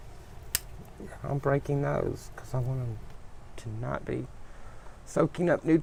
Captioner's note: snapping sounds